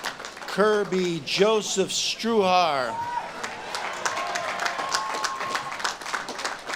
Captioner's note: audience claps and cheers